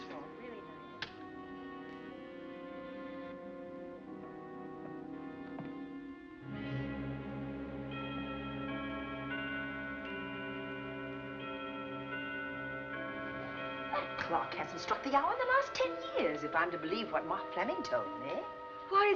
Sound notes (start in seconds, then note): 8.1 clock ringing